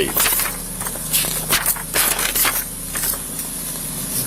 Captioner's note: papers shuffle